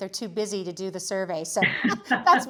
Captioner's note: laughs